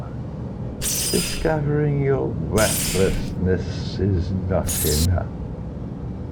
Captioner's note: indistinct rat noises; indistinct rat noises